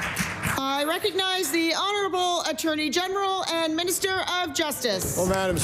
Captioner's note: applause